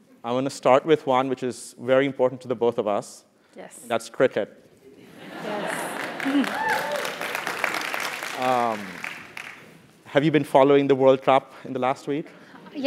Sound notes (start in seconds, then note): 5.5 applause